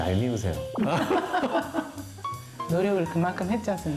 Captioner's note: laughs